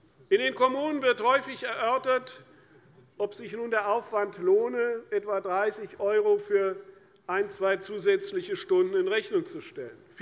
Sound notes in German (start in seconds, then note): none